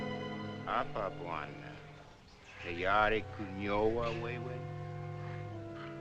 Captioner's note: speaking African Language